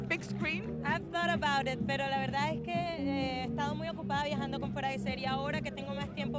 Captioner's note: speaking Spanish